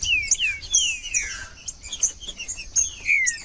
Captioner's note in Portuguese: trinca ferro cantando